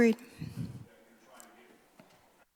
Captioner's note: audio cutting in and out